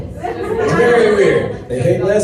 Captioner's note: laughter